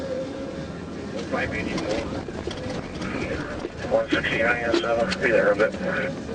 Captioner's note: garbled speech over cb radio